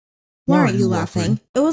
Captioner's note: deep voice